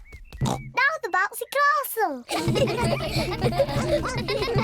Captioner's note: oinks; kids giggling